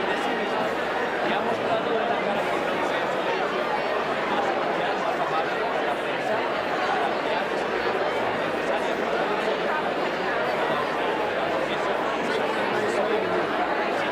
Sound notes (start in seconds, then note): 2.3 crowd noise